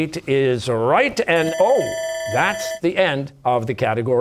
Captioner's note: bell ringing